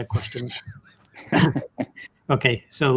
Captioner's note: everyone laughing